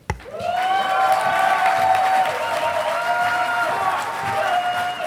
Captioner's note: audience applauding